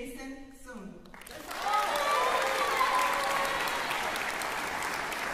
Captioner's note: applause